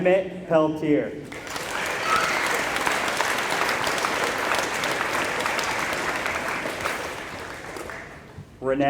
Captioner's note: applause